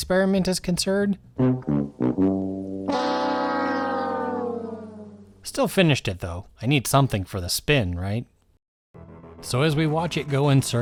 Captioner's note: whammy noise